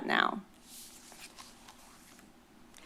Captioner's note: rustles